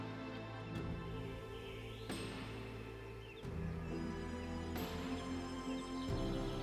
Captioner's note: birds chirping